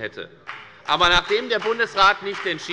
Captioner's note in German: Beifall bei der FDP